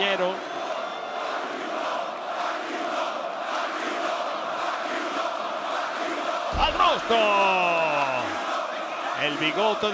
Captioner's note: applause